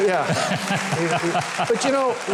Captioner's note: audience applauds; show host laughs